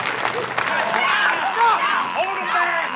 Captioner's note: screaming